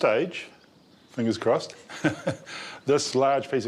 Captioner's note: laughs